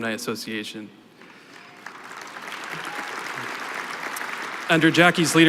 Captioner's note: applause